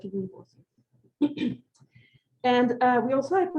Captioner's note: clears throat